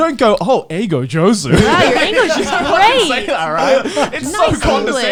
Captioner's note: speaks Japanese